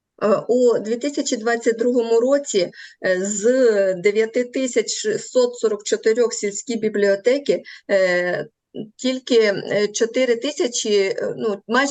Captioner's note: foreign Language